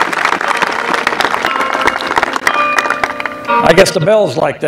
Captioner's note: applause